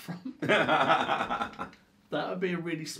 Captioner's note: laughing